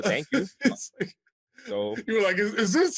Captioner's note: laughter